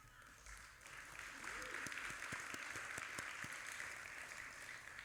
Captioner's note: audience applauding